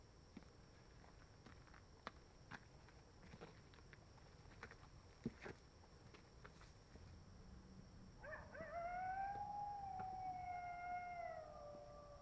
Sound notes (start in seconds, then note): 8.2 coyote howling